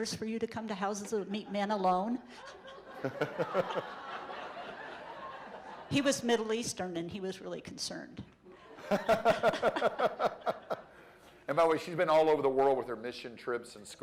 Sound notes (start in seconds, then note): 2.2 laughter; 8.6 laughter